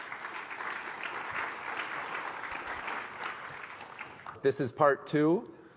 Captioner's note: applause